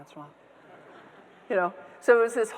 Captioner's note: audience members laughing